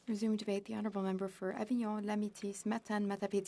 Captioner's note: speaking French